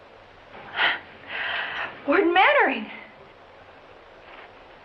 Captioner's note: chuckles